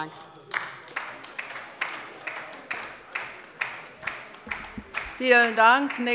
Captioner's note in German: Beifall bei der LINKEN